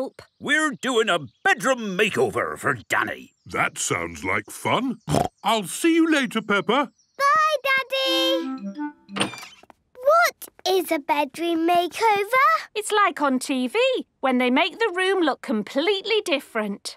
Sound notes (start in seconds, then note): 5.0 snorting